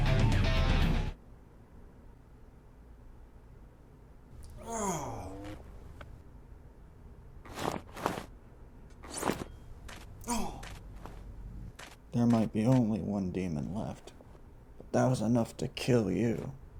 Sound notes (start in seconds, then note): 4.4 groans in being sore; 10.2 continues to Groan being sore